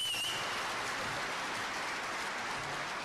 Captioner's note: cheers and applause